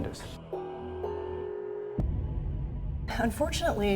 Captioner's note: bell ringing